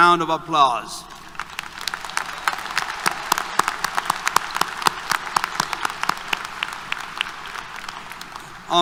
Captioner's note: applause